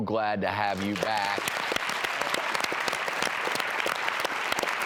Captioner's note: audience applauds